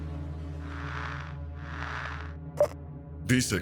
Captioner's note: static